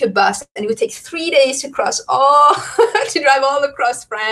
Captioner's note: laughs